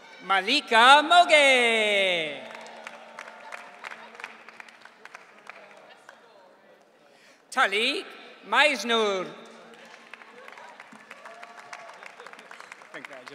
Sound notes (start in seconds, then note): 1.8 audience cheering; 11.0 audience cheering